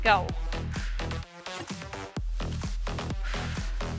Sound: breaths

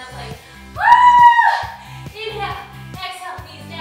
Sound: screams

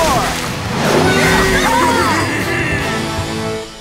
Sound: cheering

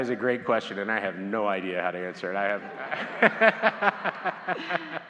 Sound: laughs; audience laughs

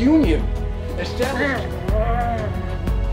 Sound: groaning

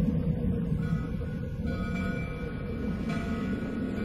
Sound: howling continues, bell clanging

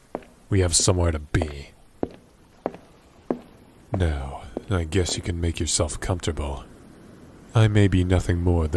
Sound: ship slowly pulling out of the dock

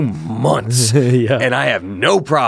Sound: laughs

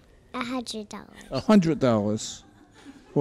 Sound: courtroom laughs

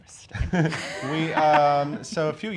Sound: all laugh

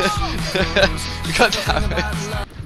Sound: laughing

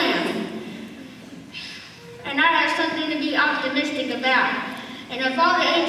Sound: huffs

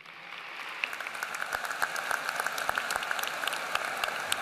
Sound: applause

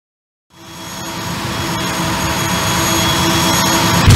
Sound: 32-bit video game sounds

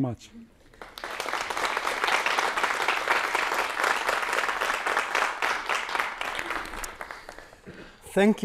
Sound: applause

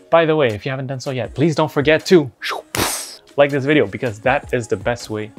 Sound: whooshes

